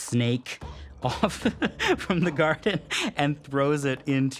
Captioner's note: laughs